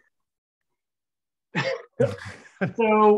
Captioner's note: all laugh